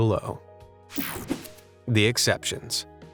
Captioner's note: calm music; image whooshing